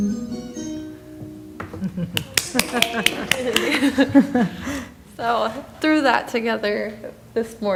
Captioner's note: applause